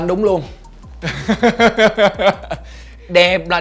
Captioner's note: laugh